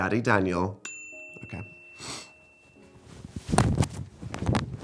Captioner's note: rings